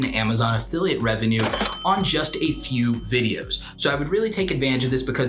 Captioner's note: cash register dings